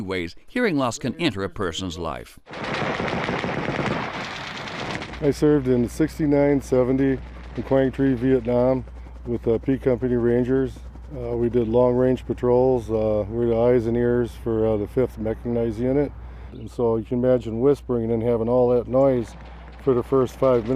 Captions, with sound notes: of the many ways hearing loss can enter a person's life. [gunfire] - I served in '69, '70 in Quang Tri, Vietnam, with the B Company Rangers. We did long-range patrols. We're the eyes and ears for the 5th Mechanized Unit, and so you can imagine whispering and then having all that noise